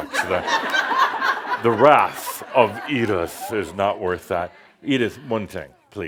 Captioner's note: laughter